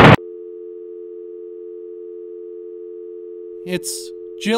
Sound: phone slams; dial tone plays

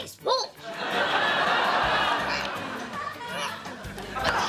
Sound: laughing

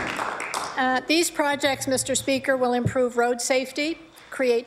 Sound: applause

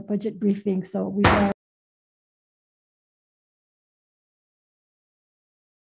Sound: gavel pounding

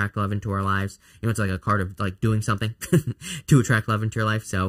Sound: laughs

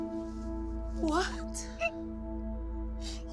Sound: Sollozos

